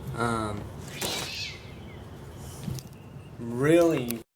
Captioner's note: cat screaming